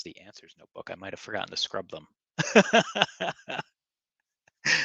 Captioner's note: laughing